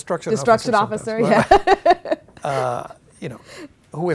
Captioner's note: laughing